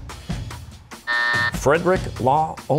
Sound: buzzer

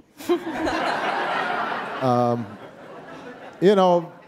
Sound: audience laughing

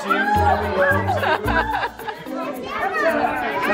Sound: murmurs

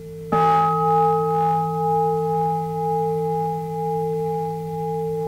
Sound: bell rings

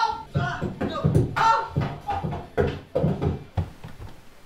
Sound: sounds of shouts and banging coming down the stairs

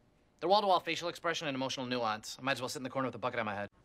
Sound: none

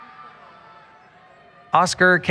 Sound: cheering

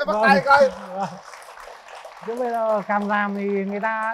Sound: clap

